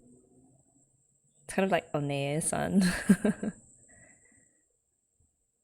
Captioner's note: laughs